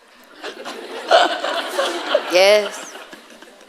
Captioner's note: audience laughing